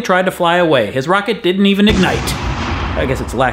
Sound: explosion noise

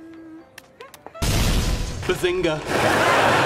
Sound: boom; laughtrack

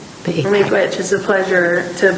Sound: speaking in foreign language

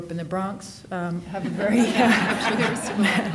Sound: audience laughing

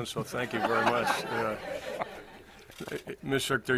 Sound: Ash and reporters laugh

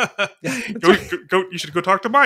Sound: laughs

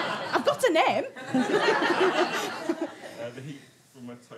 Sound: audience laughter

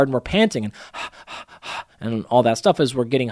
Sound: breathing deeply

